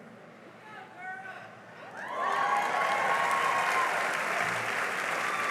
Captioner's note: cheering and applause